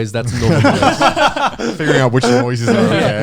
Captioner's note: all laughing